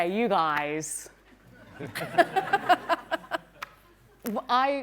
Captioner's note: laughter